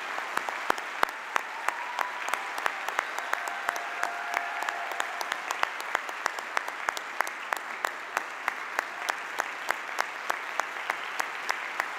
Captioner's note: cheers and applause